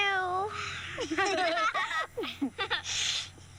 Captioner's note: giggling